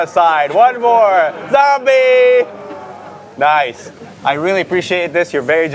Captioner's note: growling